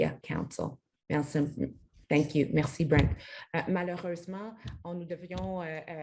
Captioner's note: speaks French